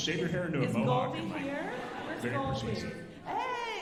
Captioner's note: alumni laughing